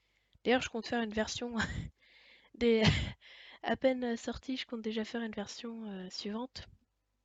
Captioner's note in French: rires